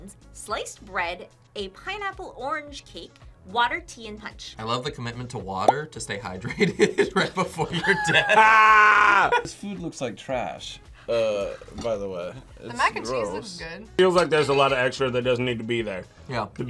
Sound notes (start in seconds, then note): 6.5 laughs